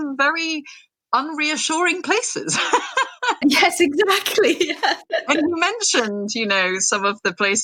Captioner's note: both laugh